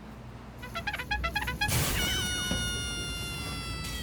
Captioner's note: distant clown noises